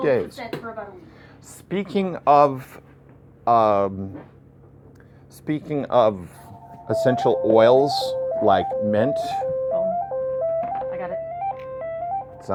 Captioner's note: ringing telephone interrupts